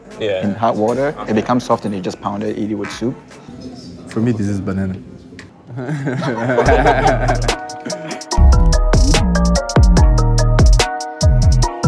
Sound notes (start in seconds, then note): 5.6 people laughs; 6.4 upbeat music